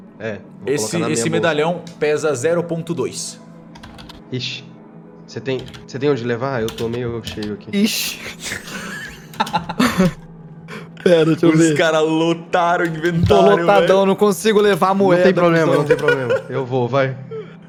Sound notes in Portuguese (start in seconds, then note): 8.4 Risadas